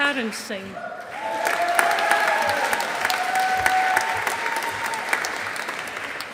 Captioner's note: audience applauding